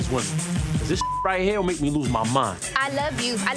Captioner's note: beep